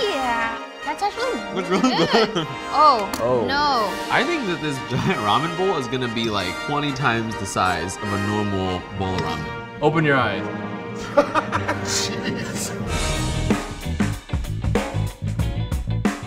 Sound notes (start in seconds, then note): 11.0 laughs; 13.6 upbeat music